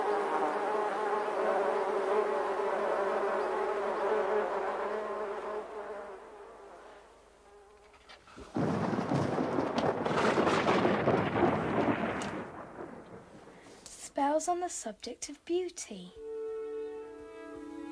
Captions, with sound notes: (Buzzing) (Thunderclap) "Spells on the subject of beauty."